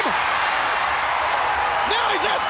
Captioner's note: crowd cheering